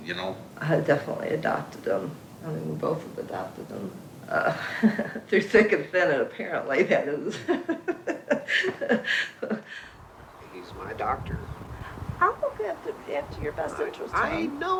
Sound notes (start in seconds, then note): 9.0 laughing